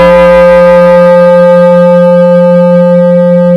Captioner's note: bell